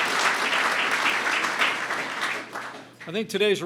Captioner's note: applause